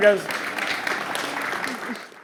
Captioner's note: audience applause